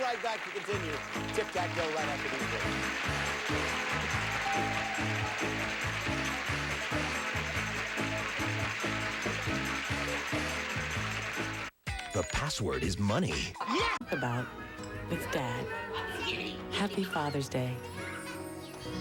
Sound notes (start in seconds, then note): 3.5 audience applauding